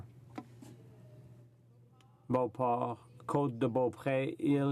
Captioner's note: speaking French